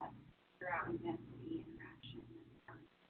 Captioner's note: off-mic question